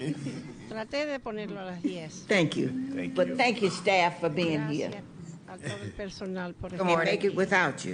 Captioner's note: laughter